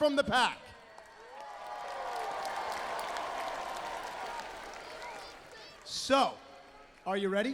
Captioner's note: crowd cheering